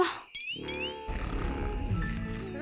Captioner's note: snoring